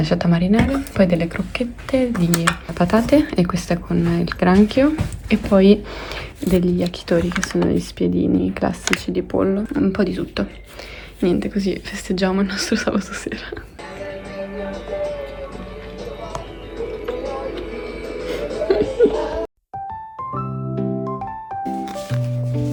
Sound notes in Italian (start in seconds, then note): 5.8 sbuffare; 18.3 risate